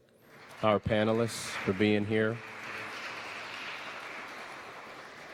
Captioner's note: audience clapping